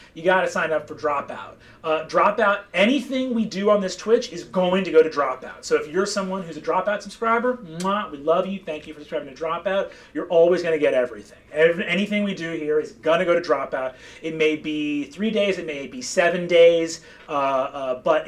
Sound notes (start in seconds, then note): 7.7 kissing